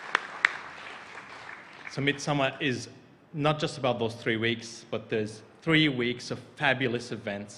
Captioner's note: applause